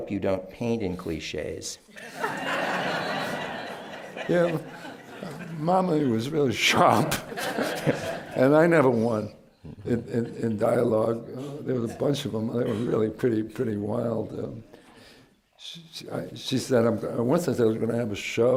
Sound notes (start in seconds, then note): 1.9 laughter; 6.9 laughs